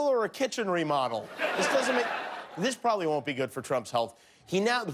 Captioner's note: laughter